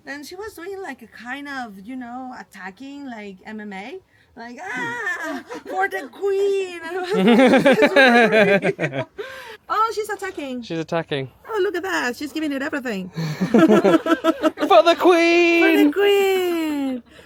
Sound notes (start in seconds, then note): 7.1 laughing; 13.1 they laugh